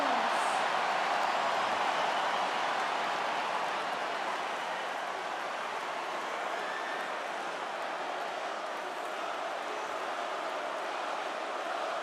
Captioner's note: applause